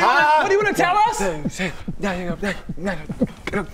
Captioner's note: background beatboxing